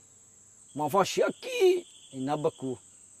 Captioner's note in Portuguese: imitando o jeito de falar